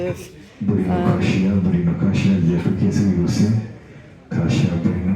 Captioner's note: loud announcement in Kinyarwanda